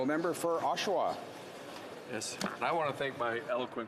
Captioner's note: speaking French